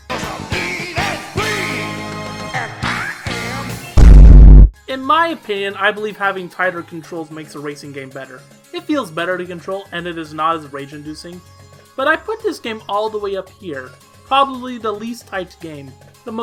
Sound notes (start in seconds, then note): 3.9 bass boosted stomp sound plays